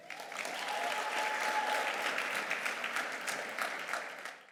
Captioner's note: audience clapping and cheering